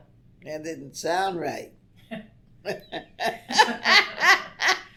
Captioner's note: laughs